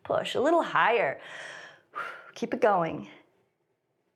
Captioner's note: inhales and exhales